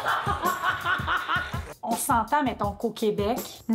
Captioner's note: laughs